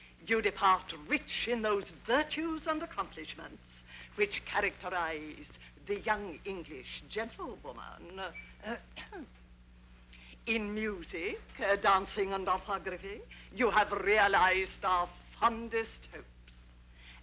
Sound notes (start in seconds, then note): 9.0 throat clearing